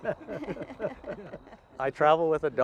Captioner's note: laughing